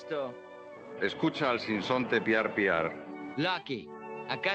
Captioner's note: mocking